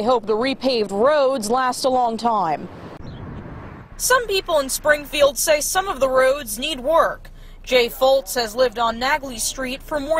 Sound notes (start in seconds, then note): 3.5 sound of car